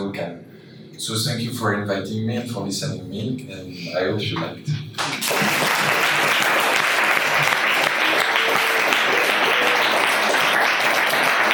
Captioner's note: applause